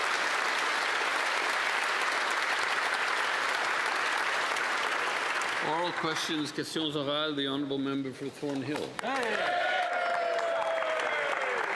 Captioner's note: applause